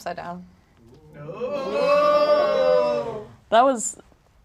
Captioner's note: audience gasping